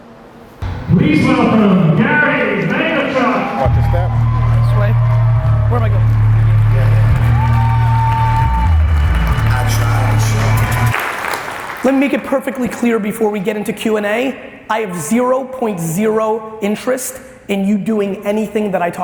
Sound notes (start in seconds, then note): 4.0 audience applause; 4.0 upbeat music